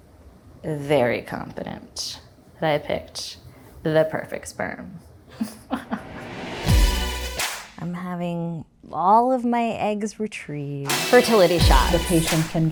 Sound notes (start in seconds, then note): 5.4 laughing; 6.1 upbeat music